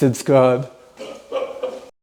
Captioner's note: laughing